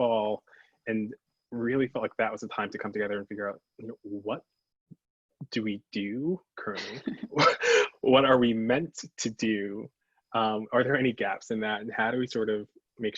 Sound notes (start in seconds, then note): 6.7 chuckles